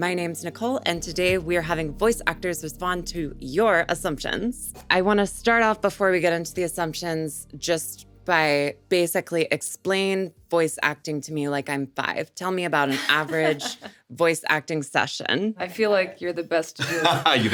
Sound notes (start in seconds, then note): 12.8 Sarah laughs; 16.8 laughs